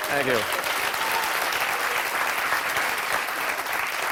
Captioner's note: cheers and applause